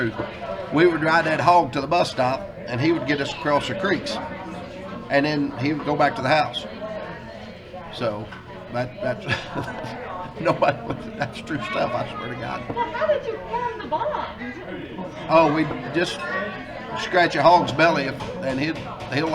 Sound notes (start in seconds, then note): 9.1 laughs